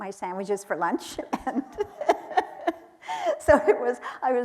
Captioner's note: laughing